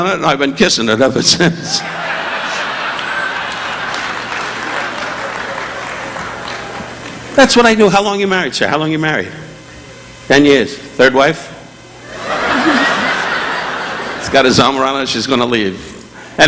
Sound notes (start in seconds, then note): 1.7 audience laughing; 1.7 Don chuckling; 3.8 audience applauding; 12.0 audience laughing